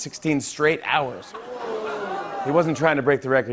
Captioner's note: audience "oohs"